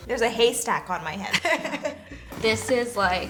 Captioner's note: laughs